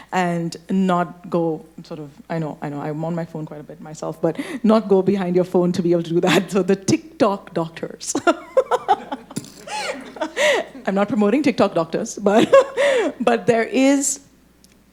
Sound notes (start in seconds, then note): 8.2 laughing; 8.2 audience laughing